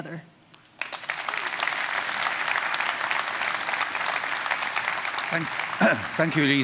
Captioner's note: applause